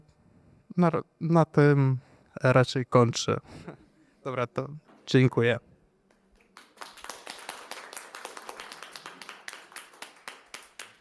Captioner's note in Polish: Aplauz